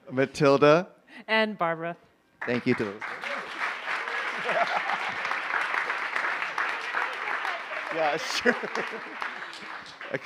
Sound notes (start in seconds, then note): 2.4 cheers, applause